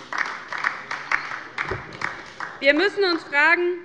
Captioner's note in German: Beifall bei der LINKEN